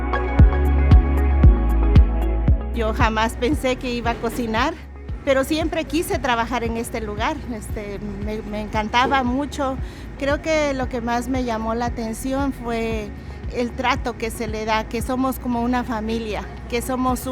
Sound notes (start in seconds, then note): 0.0 lively music; 3.0 speaking in Spanish